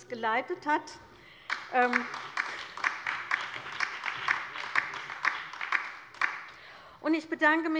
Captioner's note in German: Allgemeiner Beifall